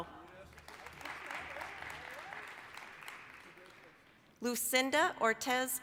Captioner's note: applause